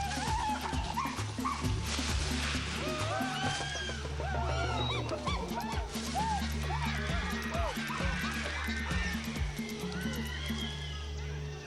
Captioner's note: chimpancés gritando